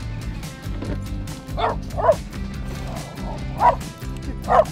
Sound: dog barking

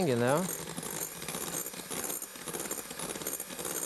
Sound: mixer whirring

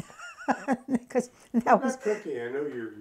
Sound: laughs

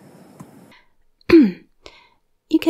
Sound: clearing throat

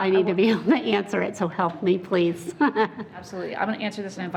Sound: laughing

